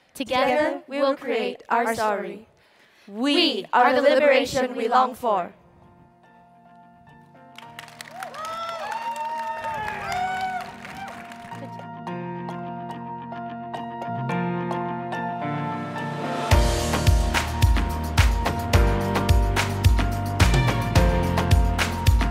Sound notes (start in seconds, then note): 7.5 crowd applauds; 7.8 soothing music